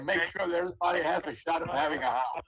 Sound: ~interference~

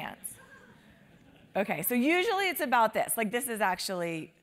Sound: laugh

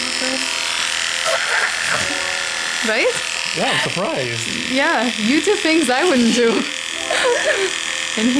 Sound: groans; laughter

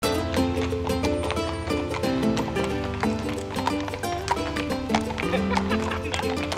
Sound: horses trotting; upbeat music; people laugh

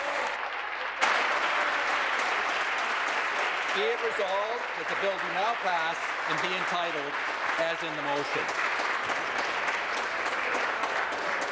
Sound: applause

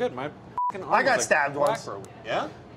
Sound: beeps

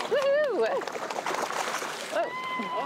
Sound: water splashing; hands clapping; cheering

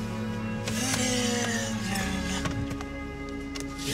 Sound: sighs

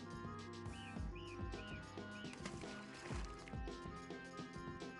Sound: birds chirping

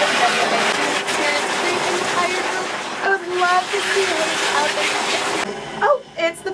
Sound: hand dryer noise, indistinguishable talking

